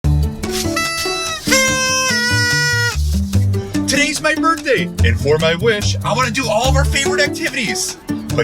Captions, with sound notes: (blowing party horn) - Today's my birthday! And for my wish, I wanna do all of our favorite activities.